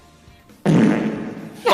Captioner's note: reverberating fart sound effect